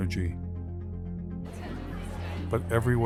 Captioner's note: crowd talking